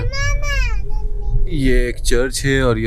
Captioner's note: cute voice